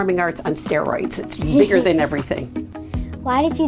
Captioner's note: laughs